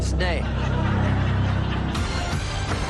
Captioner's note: mild laughter